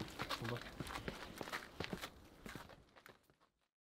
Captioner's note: footsteps